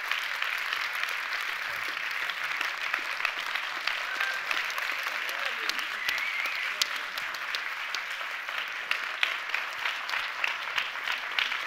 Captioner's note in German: Applaus